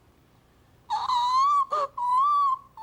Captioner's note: squealing